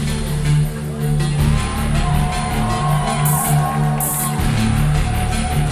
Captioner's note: audience cheering